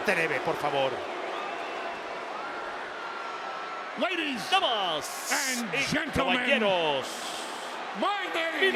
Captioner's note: applause